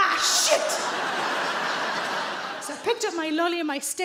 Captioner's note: audience laughs